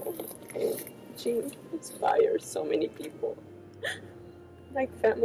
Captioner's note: sobs